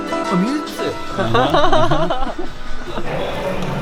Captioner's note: laughing